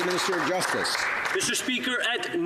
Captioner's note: some Applause